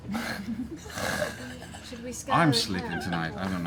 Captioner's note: laughter